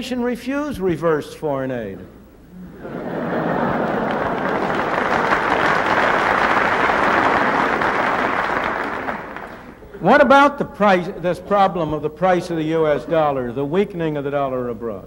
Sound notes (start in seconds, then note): 2.6 laughter